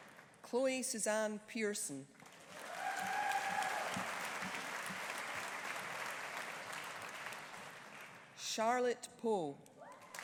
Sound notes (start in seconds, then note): 2.3 audience applauding; 2.6 audience cheering